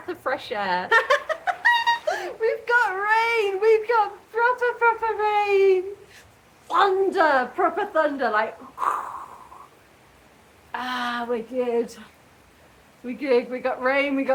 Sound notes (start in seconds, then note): 1.2 laughing and screaming; 8.6 chhh